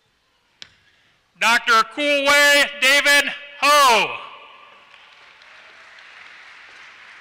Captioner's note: applause